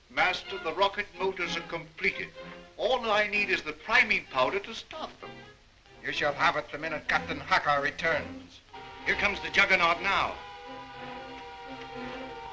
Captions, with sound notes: - Master, the rocket motors are completed. All I need is the priming powder to start them. - You shall have it the minute Captain Hakur returns. (The Juggernaut whirs) Here comes The Juggernaut now.